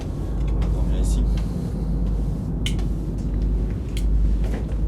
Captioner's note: speaks French